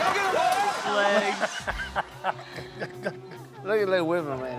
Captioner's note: group laughing